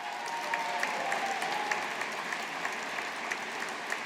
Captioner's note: audience applauding